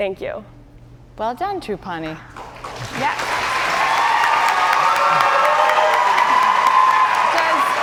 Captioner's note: cheers and applause